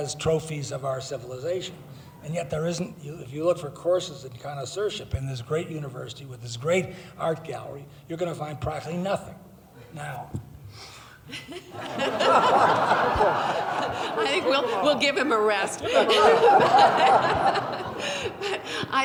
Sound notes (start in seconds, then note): 9.7 laughing; 16.0 laughing